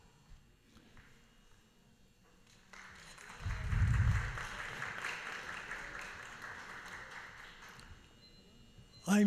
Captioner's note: applause